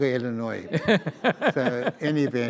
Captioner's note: audience laughs